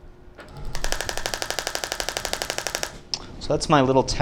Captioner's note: applicator clicks rapidly